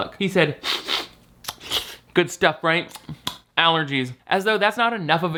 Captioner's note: sniffs